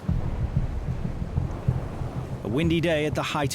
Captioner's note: wind gushing